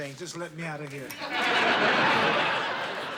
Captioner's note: laughter